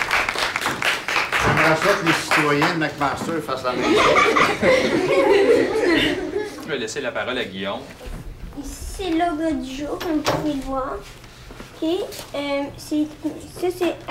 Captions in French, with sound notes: J'aimerais ça que les citoyens de McMaster fassent la même chose. (rires) - Je vais laisser la parole à Guillaume. - Ici, c'est l'ordre du jour, comme vous pouvez le voir. OK? Euh... ça, c'est à peu près le plan